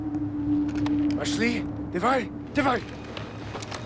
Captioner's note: speaking Russian